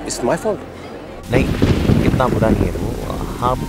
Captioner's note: Clouds thundering